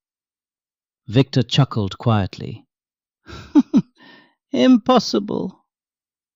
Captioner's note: chuckles